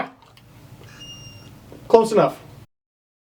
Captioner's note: squeaky yawn